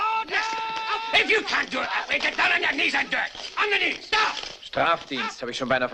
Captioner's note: man shouting